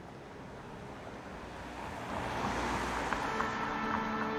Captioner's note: street sounds